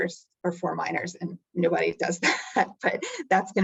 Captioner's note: chuckling